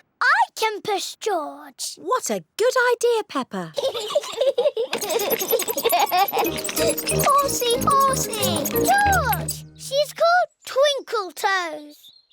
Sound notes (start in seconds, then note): 3.8 both giggling